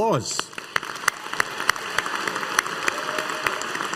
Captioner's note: audience applauding